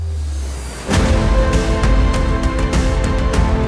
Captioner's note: applause